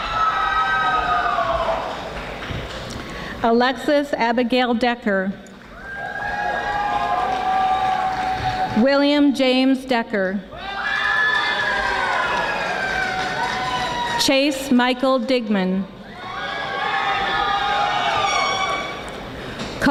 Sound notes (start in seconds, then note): 0.0 audience screaming; 5.6 audience applauding; 10.6 audience screaming; 16.3 audience applauding